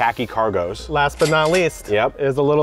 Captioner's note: cash register dings